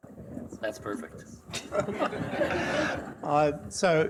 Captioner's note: audience laughing